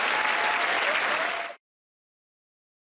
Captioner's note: cheers and applause